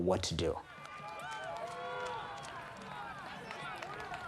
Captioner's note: cheering